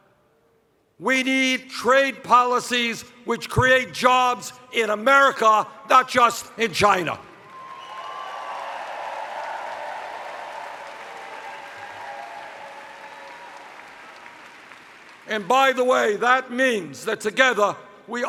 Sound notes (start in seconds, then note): 10.6 cheers